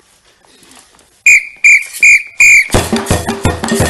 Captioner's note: four faster whistling sounds; fast drumming sounds